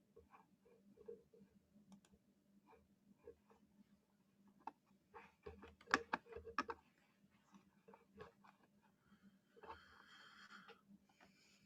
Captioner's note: pause in sound